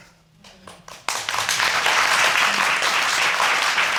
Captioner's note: audience applauding